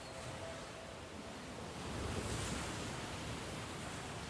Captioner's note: waves splashing